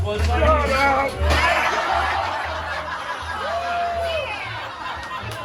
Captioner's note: people laughing